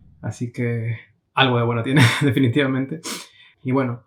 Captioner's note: chuckles